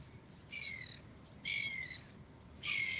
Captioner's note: birds chirping